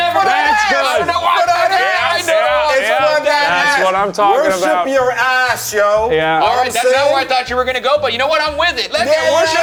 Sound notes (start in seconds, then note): 1.2 group yelling and chatting